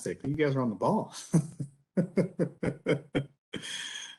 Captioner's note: laughs